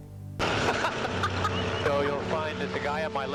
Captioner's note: laughing